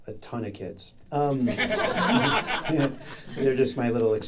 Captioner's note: audience laughing